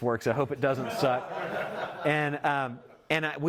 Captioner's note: audience laughing